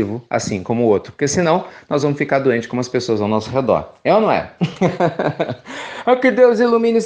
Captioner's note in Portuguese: risos